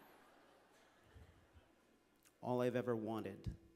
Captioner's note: laughter